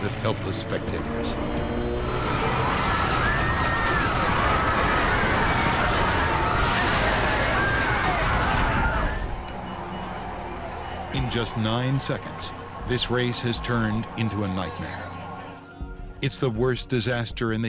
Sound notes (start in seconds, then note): 2.4 plane crashes; 3.3 crowd screams